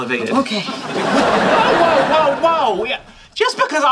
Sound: audience laughing

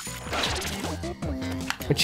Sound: schwoop

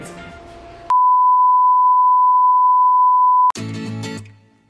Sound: tone sounds

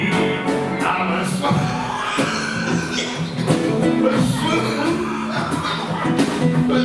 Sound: coughing

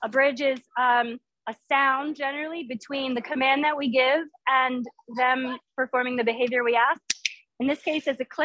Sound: click

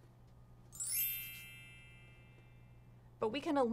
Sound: bell

